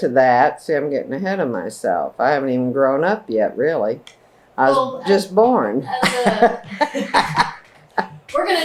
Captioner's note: laughter